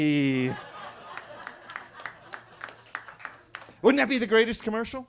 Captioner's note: attendees laughing and clapping